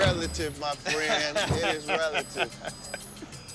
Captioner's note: laughs